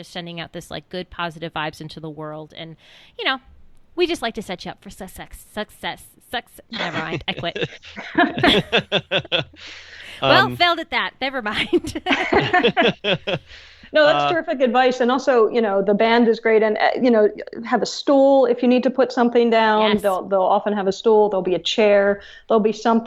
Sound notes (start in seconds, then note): 6.9 stutters